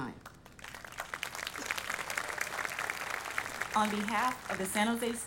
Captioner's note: audience applauding